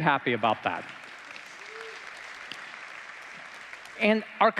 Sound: applause

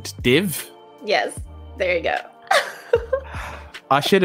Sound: laughs

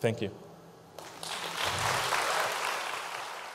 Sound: audience claps

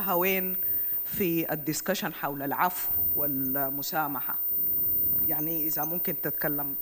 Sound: speaks in foreign language

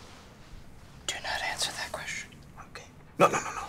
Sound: whispers

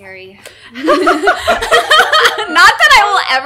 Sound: laughter

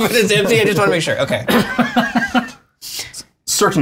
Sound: laughs

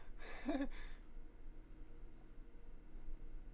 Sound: laughing

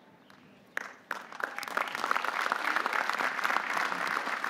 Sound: audience applauding

